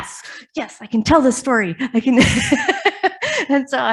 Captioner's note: laughs